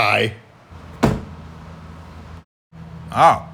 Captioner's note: thunk